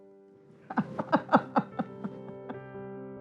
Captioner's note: laugh